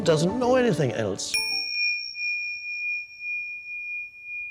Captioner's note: bell ringing